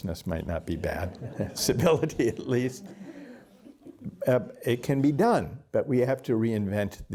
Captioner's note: laughter